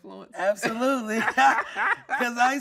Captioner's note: laughing